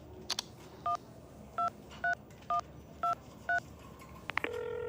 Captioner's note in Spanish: Sonido al marcar